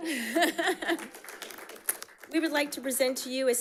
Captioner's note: audience clapping